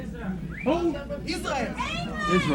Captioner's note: crowd cheers